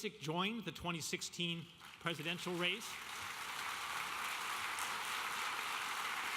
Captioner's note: audience applauding